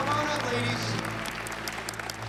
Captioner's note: applause